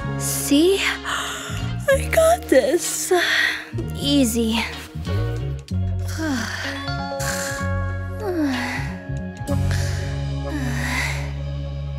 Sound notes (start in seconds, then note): 7.6 Lady Diva snores